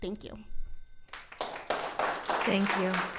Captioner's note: audience applauding